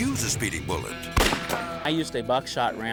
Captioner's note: whip cracks; gun fires